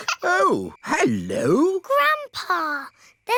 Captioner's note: giggling